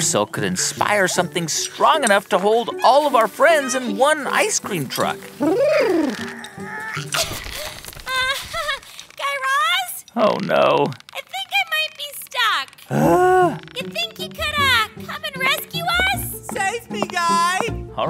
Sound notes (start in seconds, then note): 12.8 groan; 17.3 soundbite of footsteps